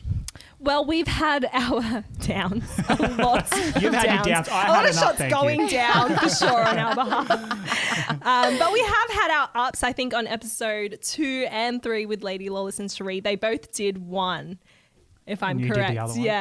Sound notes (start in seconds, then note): 2.6 laughing together